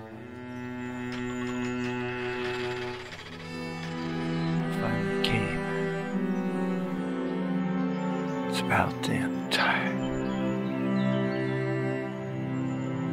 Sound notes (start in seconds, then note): 0.1 door creaks